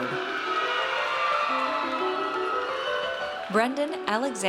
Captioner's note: audience cheers